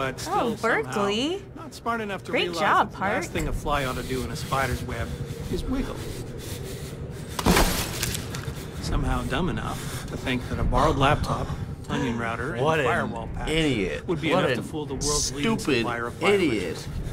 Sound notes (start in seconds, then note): 6.1 breathes heavily; 7.4 laptop screen shatters